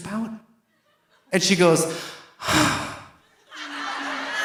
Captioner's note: sighs; audience laughing